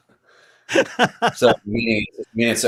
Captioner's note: laughter